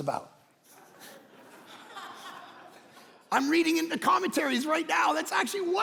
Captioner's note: congregation laughing